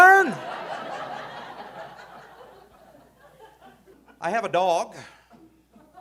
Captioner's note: audience laughing